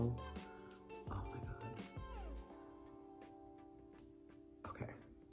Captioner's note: whispering